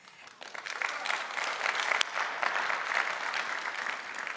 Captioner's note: audience applauding